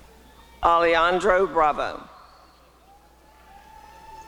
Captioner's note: applause and cheering